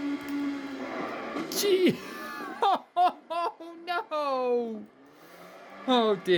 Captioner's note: chuckles